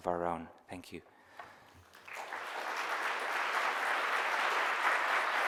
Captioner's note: audience applause